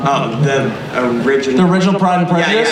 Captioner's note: voiceover